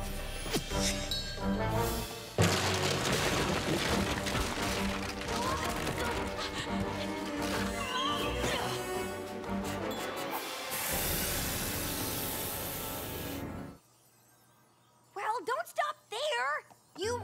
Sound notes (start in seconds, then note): 10.4 hisses